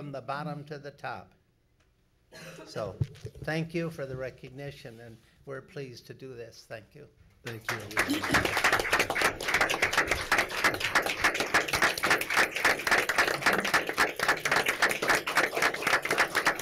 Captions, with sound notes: from the bottom to the top so thank you for the recognition and we're pleased to do this, thank you. (applause)